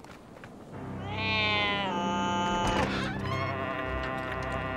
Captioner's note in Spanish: gato maullando; puerta crujiendo